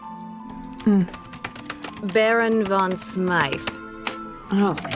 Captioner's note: typing resumes